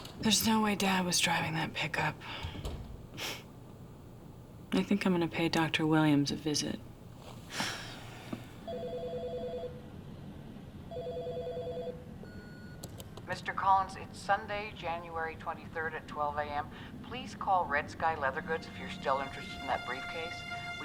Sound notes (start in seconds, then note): 7.5 sighing; 8.9 phone ringing; 12.3 answering machine beeps